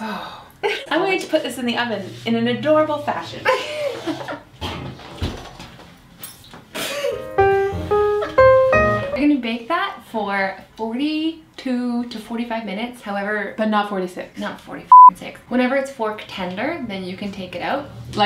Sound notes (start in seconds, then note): 3.5 laughs; 7.1 jazz piano music